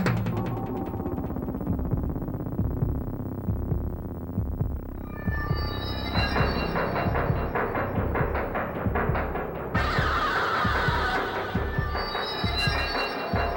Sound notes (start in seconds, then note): 0.0 mysterious music; 2.9 heart beating